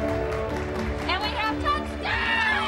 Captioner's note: yelling; cheers and applause